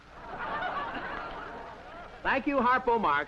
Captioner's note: audience laughter; laughs